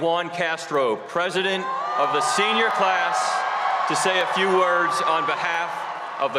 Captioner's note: cheers and applause